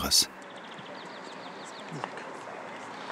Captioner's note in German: Vogelzwitschern